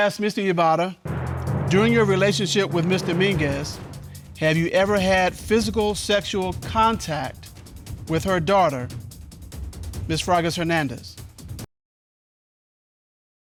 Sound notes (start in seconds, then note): none